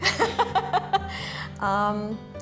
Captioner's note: laughter